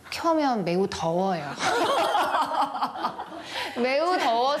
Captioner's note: hahahahahahaha